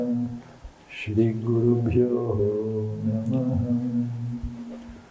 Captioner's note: chanting